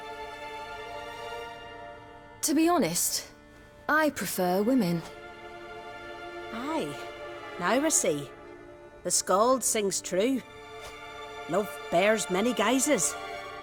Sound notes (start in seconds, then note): none